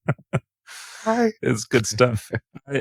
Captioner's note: laughing